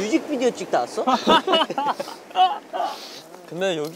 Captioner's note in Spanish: Haha